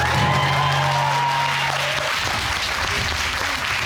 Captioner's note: applause